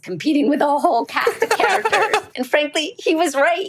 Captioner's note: laughter